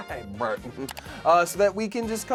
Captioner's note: loud clicking